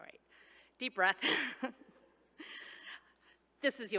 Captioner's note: chuckles